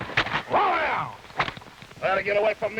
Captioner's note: man shouting